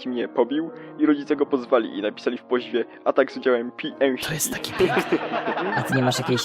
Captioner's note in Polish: śmiech